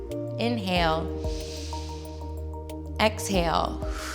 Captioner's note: exhales; inhales